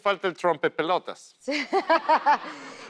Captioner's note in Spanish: Ríe